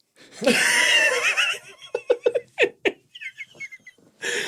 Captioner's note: both laughing